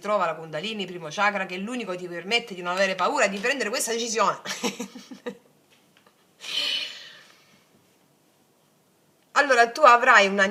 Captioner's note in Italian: risate